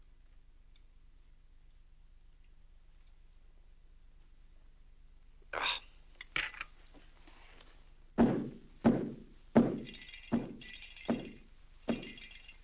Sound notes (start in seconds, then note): 5.5 Mr. Day grumbles; 8.1 foot stomping; 9.6 lights rattling